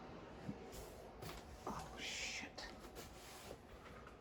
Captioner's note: whispering